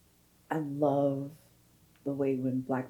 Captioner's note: none